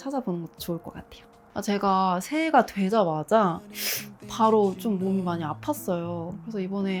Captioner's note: sniffle